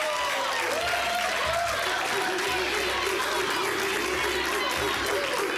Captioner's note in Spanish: Gritos y exclamaciones